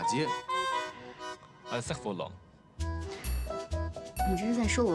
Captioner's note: French